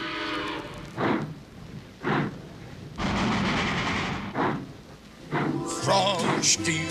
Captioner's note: train starts off